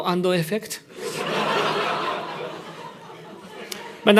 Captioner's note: laughter